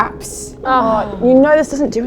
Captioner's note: groans